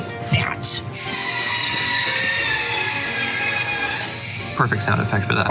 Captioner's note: soul piercing workshop noises